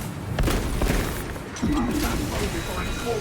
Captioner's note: gunshots